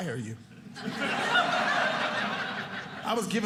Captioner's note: audience laughing